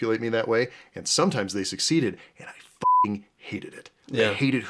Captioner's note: beeping